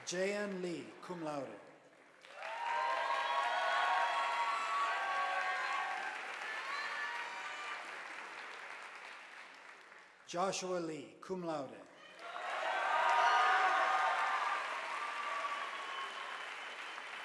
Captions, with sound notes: Jay Ann Lee cum laude, (audience applauding) Joshua Lee cum laude, (audience applauding)